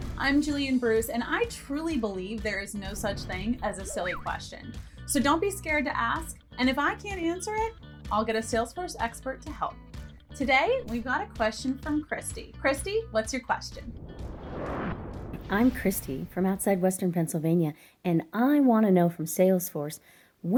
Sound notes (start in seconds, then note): 13.6 air whooshes; 15.4 soft upbeat music